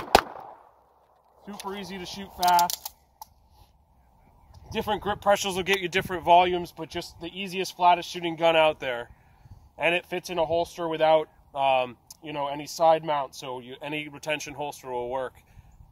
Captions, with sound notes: Super easy to shoot fast. (gun clicking) Different grip pressures will get you different volumes. But just the easiest, flattest-shooting gun out there. And it fits in a holster without, you know, any side mounts, so any retention holster will work.